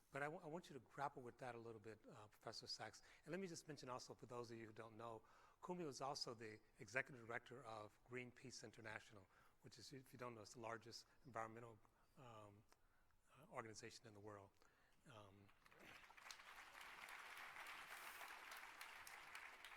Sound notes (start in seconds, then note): 15.4 applause